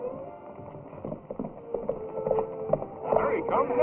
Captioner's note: horse galloping